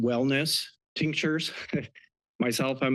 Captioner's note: chuckles